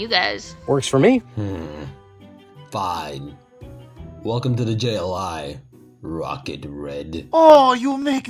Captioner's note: annoyed groans